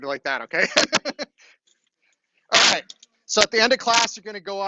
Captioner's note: laughs